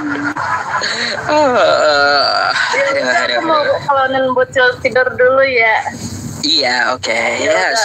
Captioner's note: applause